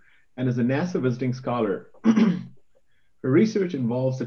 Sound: clears throat

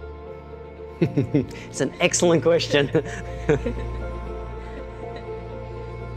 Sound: chuckles

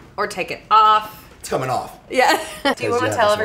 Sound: laughs

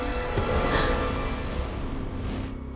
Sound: gasps

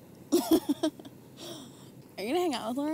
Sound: laughing

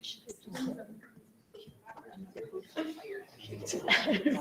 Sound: group chattering

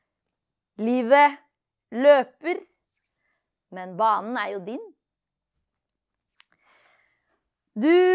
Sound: continues slam poetry in Norwegian

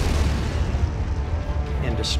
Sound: explosion

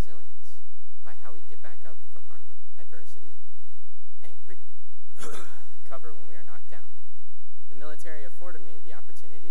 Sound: clears throat

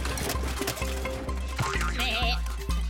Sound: bleating

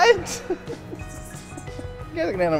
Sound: laughs

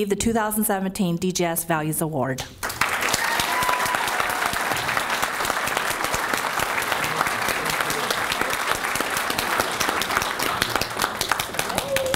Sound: applause

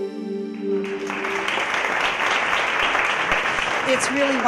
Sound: piano jingle; audience clapping

